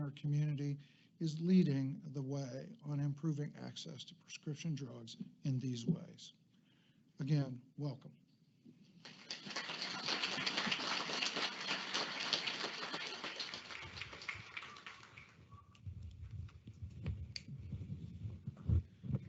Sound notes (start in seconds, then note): 9.0 audience applauding